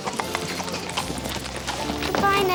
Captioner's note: hooves clop